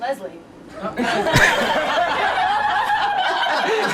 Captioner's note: laughing